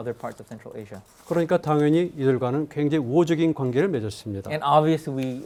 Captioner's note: speaking in Korean